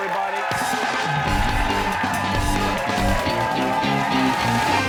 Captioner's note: cheers and applause